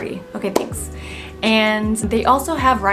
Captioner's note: hands clapping